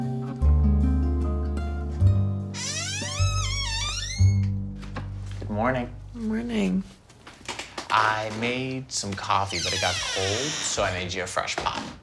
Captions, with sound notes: (door creaks) - Good morning. - Morning. - I made some coffee, but it got cold, so I made you a fresh pot.